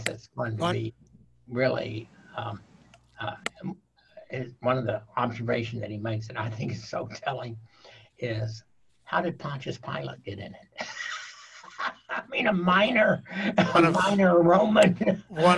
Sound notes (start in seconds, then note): 10.6 laughing